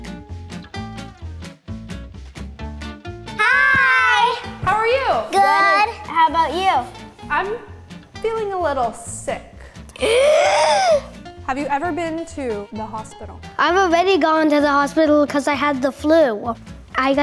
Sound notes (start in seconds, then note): 9.6 gasps